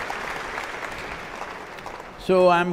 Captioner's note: applause